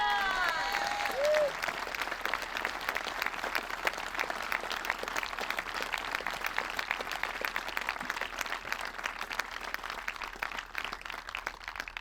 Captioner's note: applause